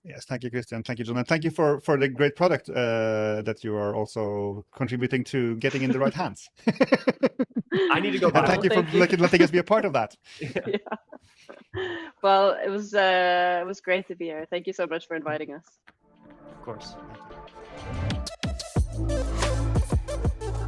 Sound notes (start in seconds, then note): 6.6 participants laughing; 10.4 laughs; 11.0 laughing; 16.3 upbeat electronic music